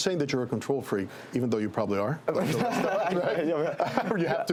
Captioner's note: laugh